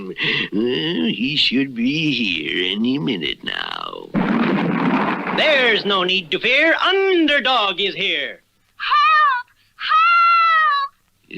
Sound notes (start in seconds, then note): 4.1 crash!